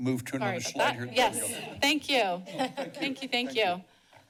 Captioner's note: chuckles